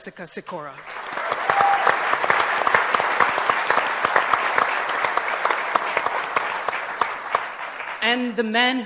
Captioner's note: applause